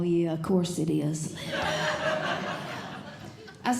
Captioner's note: audience Laughing